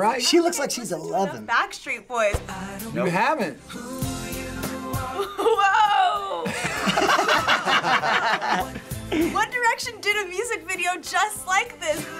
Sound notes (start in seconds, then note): 6.2 laughs